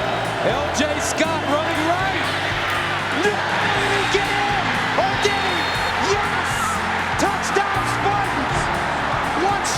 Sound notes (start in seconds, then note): 2.7 crowd cheering; 3.0 announcer cheering